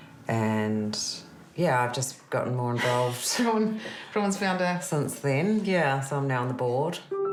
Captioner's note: laughs